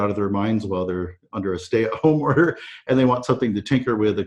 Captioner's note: chuckles